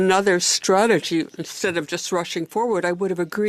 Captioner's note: speaking French